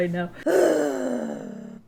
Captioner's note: deep sigh